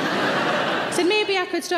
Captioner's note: audience laughing